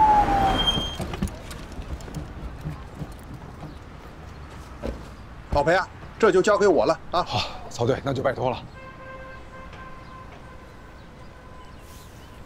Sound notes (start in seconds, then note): 0.0 ambulance